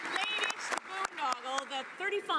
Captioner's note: some Applause